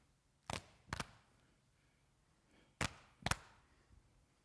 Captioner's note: hands tapping